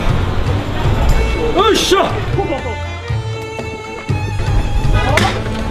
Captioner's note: vendor yelling